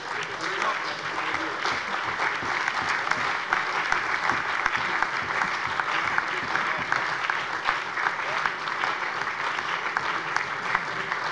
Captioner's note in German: Allgemeiner Beifall